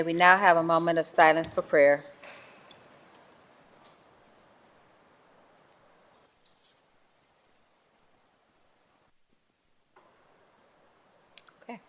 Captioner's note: moment of silence